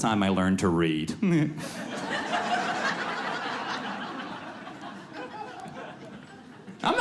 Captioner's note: audience laughs